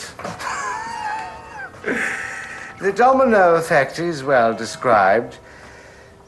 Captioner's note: chuckles